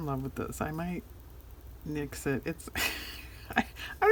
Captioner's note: laughs